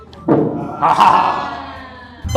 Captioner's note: witch laughter